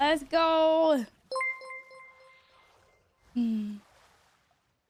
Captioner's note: just dinged